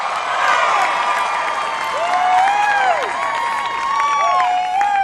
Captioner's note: applause